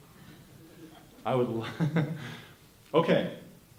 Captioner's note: laughter